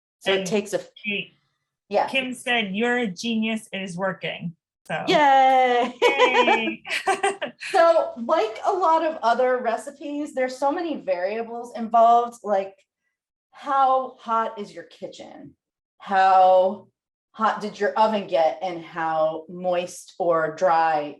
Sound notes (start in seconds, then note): 3.0 laughs